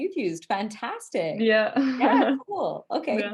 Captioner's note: laughs